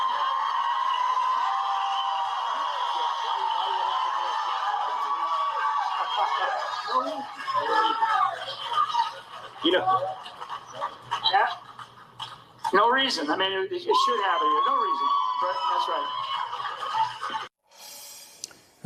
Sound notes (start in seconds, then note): 6.0 cheers and applause